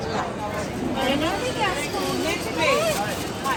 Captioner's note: indistinct market chatter